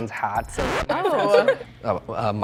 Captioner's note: laughing